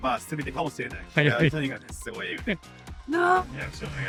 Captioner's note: laughs